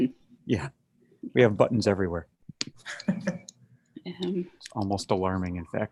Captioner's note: chuckles